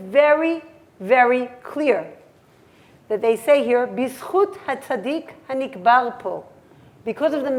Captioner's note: hebrew